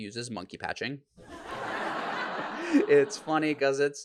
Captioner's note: audience laughs